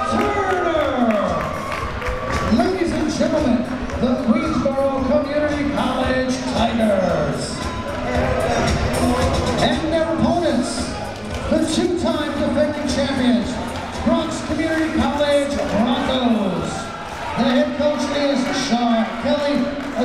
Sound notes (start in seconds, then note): 0.9 crowd members cheering